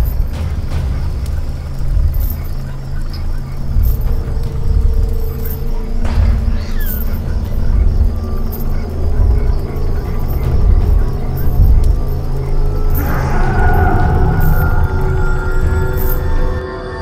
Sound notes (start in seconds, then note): 0.1 dramatic music; 13.2 growling sounds